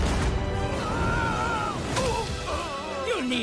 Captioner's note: yelling and groaning